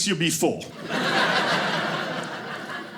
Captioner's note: audience laughing